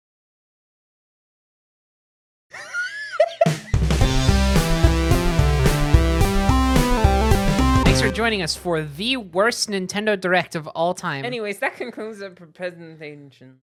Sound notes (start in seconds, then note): 2.6 laughing; 3.8 intro music playing